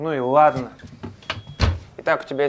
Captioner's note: door close sound